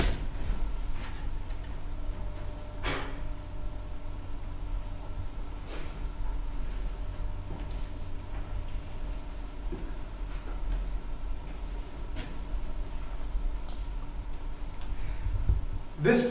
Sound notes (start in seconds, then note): 3.0 blowing dust off